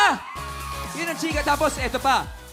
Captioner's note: cheering